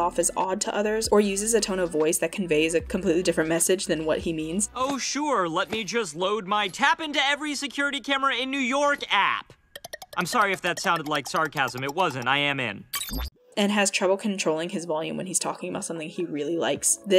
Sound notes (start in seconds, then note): 5.2 sarcastic tone; 9.9 clicking